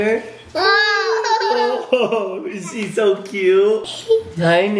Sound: laughter

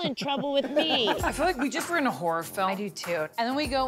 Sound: laugh

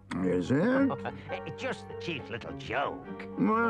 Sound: laughs

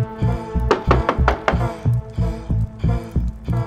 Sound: knocking

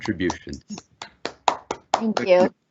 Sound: applause

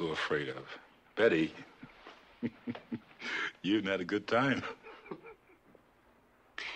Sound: chuckles

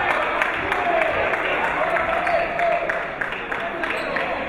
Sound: clapping; chatting

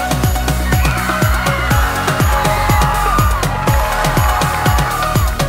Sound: excited screaming

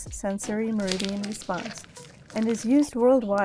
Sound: slime squelching

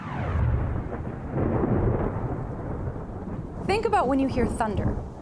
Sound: thunder rumbling

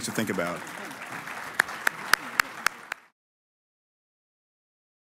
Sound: applause

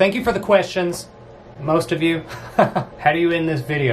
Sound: laughs

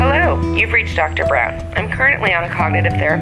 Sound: voice-mail

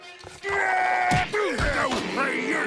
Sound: screaming

